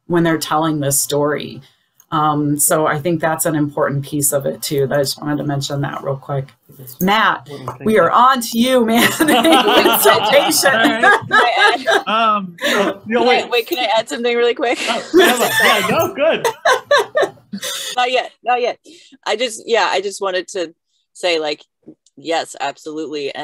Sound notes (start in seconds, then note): 8.9 the panel laughs; 16.6 laughs